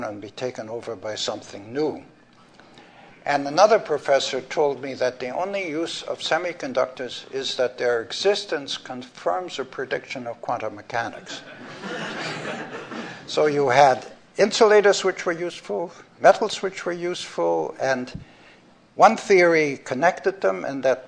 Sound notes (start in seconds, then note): 11.2 laughter